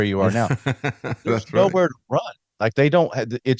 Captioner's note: laughing